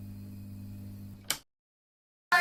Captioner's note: light switch